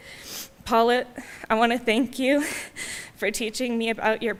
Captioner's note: none